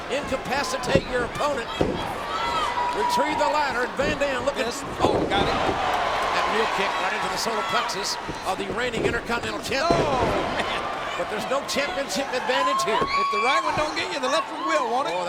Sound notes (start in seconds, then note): 5.9 crowd cheering; 10.4 mat thumping